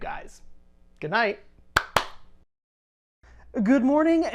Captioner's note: claps